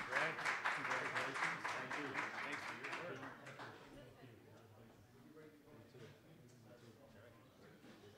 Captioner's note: general chatter